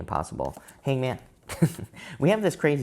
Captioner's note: chuckles